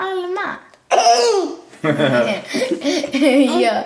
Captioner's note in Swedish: skrattar till